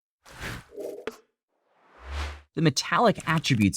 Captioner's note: slide whooshes